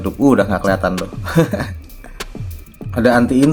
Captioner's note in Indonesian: tertawa